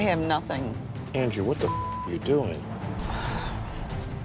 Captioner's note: beep